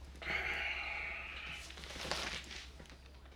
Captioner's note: sighing